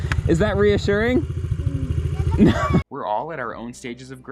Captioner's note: laughs